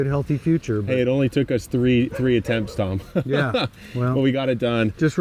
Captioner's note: laughs